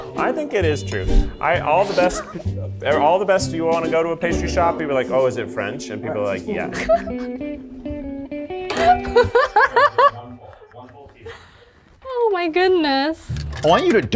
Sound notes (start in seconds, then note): 6.6 laughing